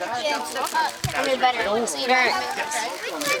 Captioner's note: indistinct chatter